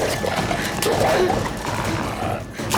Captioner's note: barking